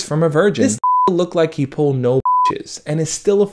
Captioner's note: beep